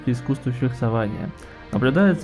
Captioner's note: inhale